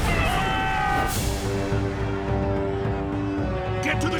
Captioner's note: distant screaming; screaming